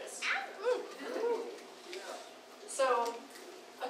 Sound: crowd hooting and cheering

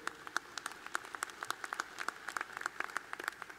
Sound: applause

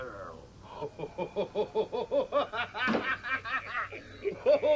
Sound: laughing

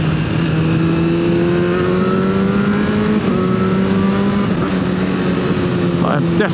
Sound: and other assorted exhaust noises

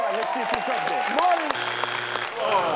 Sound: buzz sound

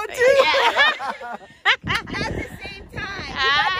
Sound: laughing

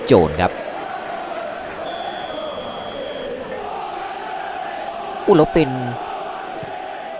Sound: applause

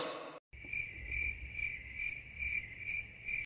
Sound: cricket sounds

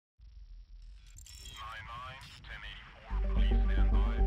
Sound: radio chatter; music fading in

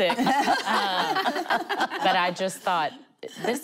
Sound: laughing

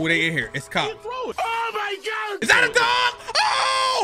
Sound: comedic Voice

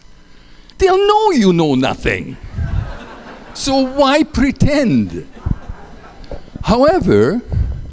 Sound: laughter

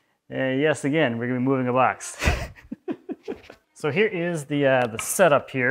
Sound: laughs

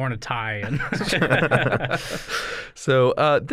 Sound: laughter

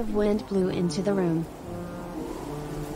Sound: sound of wind

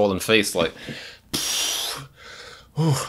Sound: exhales

